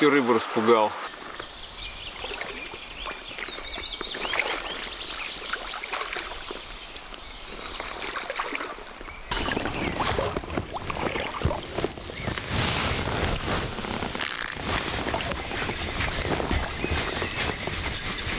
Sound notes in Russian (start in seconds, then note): 1.1 звуки леса; 1.1 пение птиц